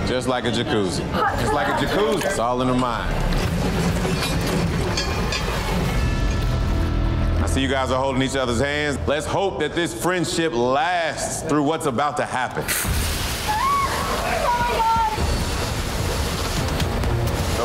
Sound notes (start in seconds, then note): 2.6 metal clanging; 3.0 dramatic music; 12.7 water rushing; 13.4 shrieking; 14.7 dramatic music; 15.9 water splashing